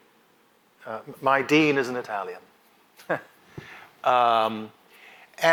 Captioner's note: laughs